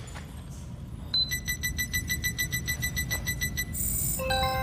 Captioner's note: beeping